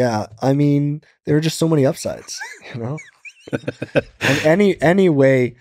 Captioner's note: laughs